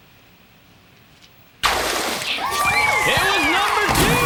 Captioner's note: cheering